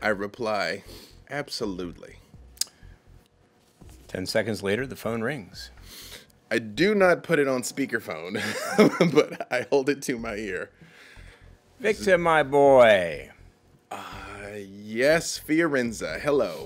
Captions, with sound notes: - I reply, "Absolutely." - 10 seconds later the phone rings. - I do not put it on speakerphone. (laughs) But I hold it to my ear. - Victor, my boy. - Yes, Firenze, hello.